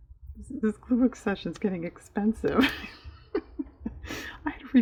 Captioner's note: laughs